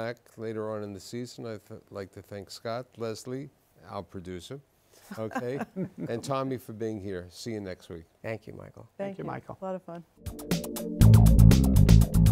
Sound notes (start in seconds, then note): 5.1 laughs